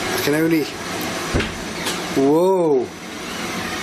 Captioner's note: door creaking